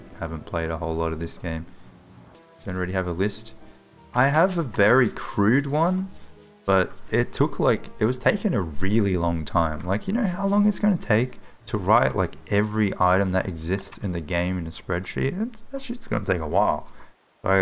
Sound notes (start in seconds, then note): none